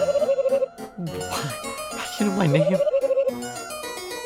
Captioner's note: confused noises